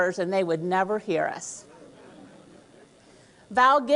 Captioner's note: laughter